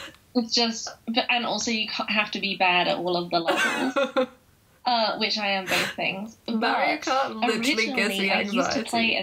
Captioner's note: laughing